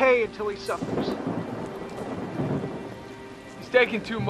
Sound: rumble of thunder

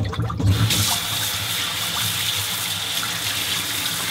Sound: water flowing

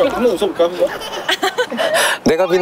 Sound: giggles

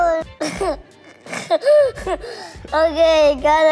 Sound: laughs

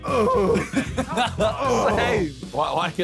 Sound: all laughing

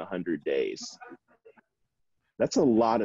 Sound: chuckling

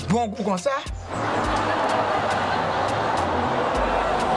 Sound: laughs

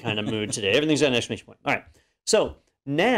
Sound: laugh

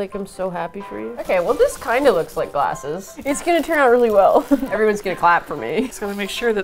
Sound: laughs

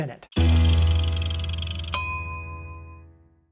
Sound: timer ding

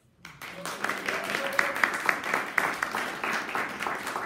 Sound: audience applauding

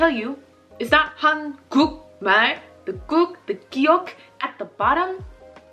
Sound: speaking Korean

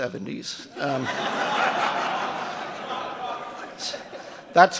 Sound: audience laughing

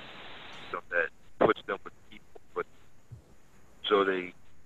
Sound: sound cuts out

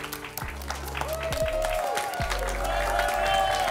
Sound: applause and cheering

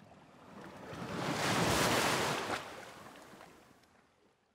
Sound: waves crashing

